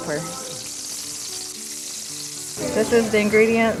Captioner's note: grease sizzle